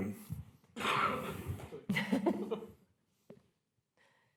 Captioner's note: laughter